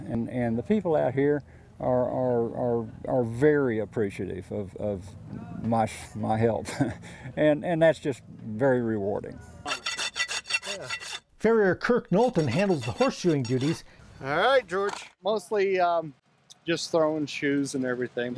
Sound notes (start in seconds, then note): 9.6 file rasps